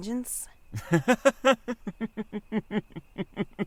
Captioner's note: laughs